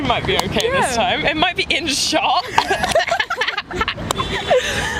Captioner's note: laugh